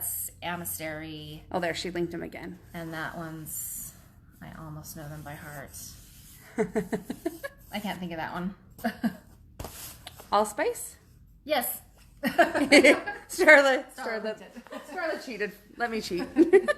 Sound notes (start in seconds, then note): 6.5 laughs; 12.2 both women laugh